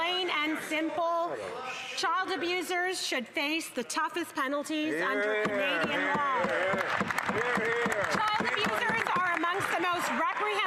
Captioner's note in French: voix de l'interprète